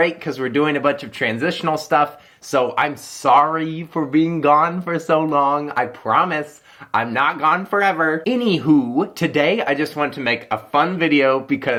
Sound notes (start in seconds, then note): none